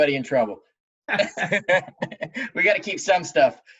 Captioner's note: laughing